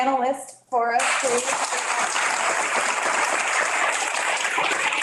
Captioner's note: audience claps